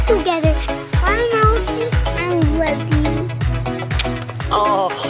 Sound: kisses

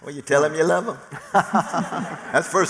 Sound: laughter

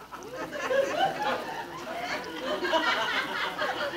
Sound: audience laughing

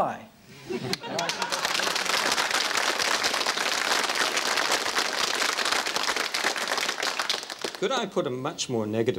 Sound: laughter and applause

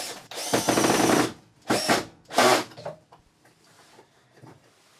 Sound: drill buzzing

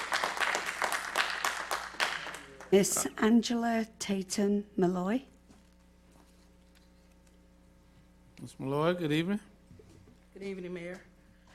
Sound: applause

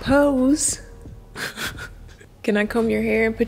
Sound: laughs

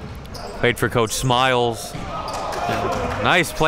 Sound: cheering and applauding

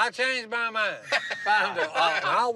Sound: laughter

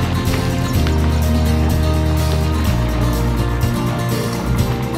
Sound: fish splashing

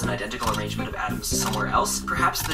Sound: camera clicks continuously

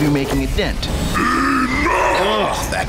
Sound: growl

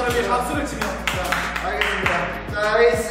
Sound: clapping

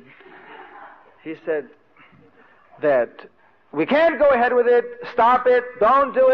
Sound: devotees laugh

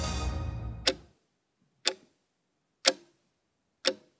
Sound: timer ticks

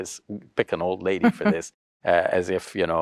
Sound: chuckles

